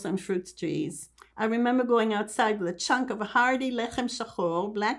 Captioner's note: hebrew